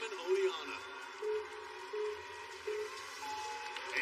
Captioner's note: countdown clock beeping